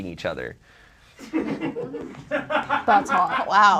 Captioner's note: audience laughs